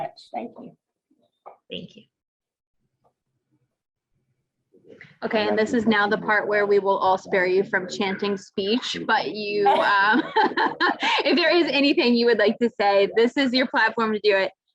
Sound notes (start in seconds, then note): 7.7 laughs